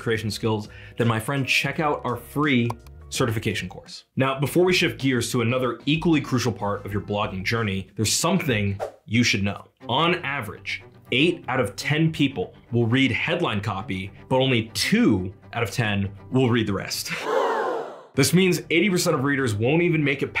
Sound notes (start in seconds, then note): 17.1 crowd gasps